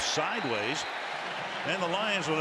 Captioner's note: whistle